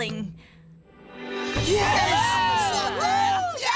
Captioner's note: cheering